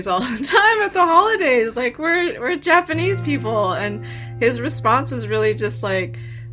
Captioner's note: laughter